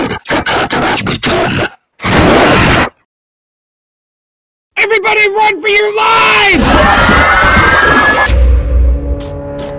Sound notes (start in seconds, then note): 5.9 everyone screaming